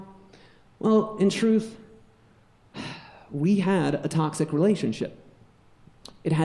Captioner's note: sighs